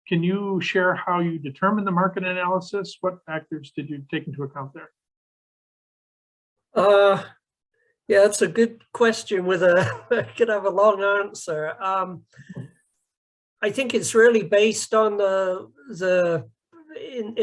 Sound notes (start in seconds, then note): 9.7 laughs